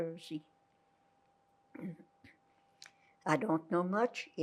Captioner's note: throat-sound